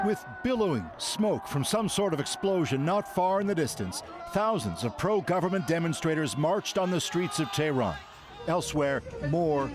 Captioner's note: shouting